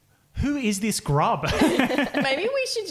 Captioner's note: laughing